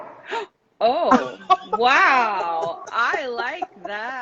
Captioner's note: laughs